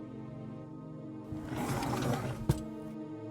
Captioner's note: door opens